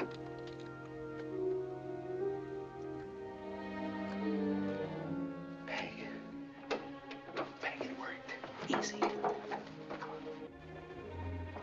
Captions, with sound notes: Peg. [ Whispers ] Peg, it worked. Easy. Come on.